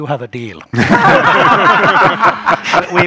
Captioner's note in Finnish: Laughter